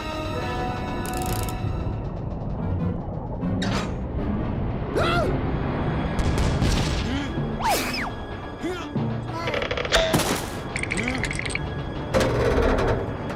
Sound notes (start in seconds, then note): 10.1 teeth chattering; 12.0 pipes creaking